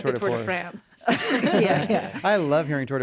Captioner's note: all chuckling